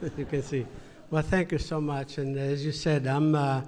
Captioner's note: laughter